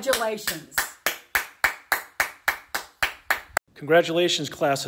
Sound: claps

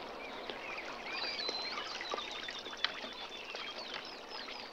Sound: birds chirping

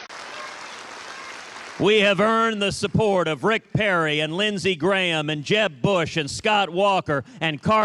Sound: cheers and applause

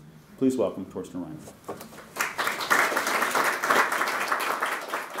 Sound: applause

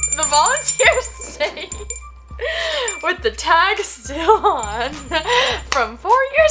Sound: laughs

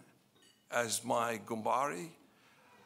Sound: speaking in foreign language

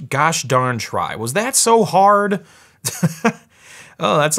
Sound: laughs

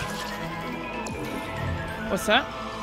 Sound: game noise: enemy spawning

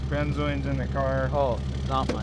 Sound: motor rumbling

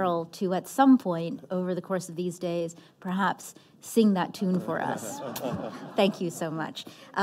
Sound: laughter

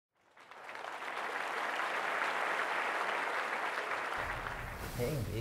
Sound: applause

